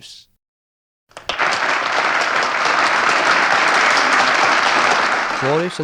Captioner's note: applause